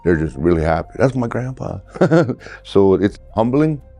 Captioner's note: chuckling